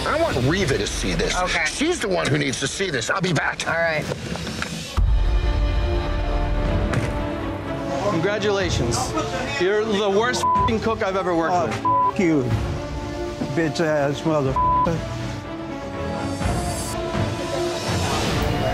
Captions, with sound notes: I want Reeva to see this. She's the one who needs to see this. I'll be back. - All right. (intense music) - Congratulations, you're the worst (beeping) cook I've ever worked with. - Oh, (beeping) you. Bitch ass mother (beeping).